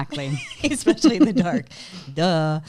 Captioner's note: chuckles